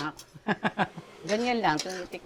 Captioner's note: laughs